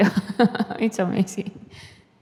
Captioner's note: laughs